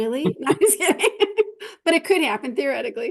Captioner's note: laughing